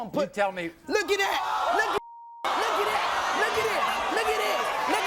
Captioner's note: beep